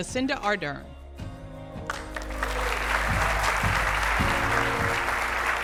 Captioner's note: audience applauding